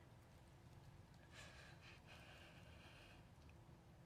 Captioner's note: intense breathing